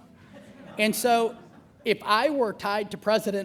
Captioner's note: laughter